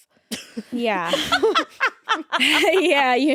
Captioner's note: laughing